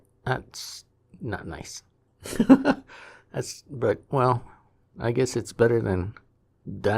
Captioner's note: chuckles